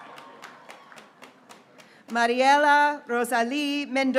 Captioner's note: graduates cheering